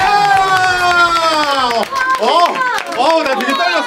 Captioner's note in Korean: 박수